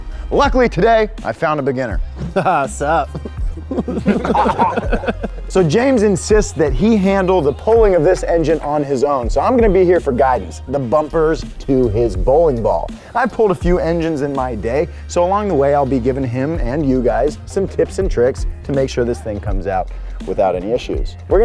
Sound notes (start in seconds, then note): 2.2 laughs; 3.0 crew laughing